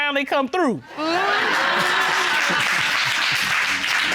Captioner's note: audience laughing, applauding